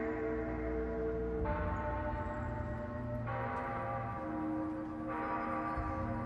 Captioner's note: soft music; bell ringing